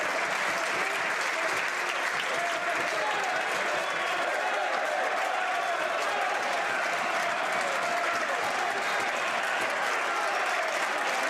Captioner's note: some Applause